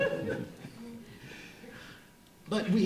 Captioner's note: audience laughter